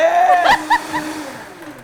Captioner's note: laughing